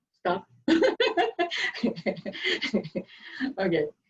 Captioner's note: laughs loudly